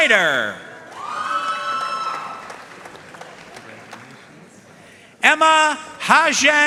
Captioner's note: audience cheering and applauding